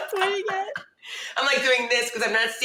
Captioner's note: women laughing